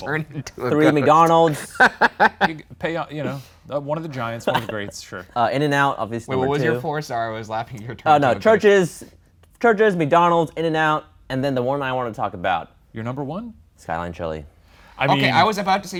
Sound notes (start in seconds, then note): 2.3 laughs